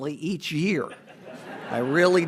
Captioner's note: audience laughs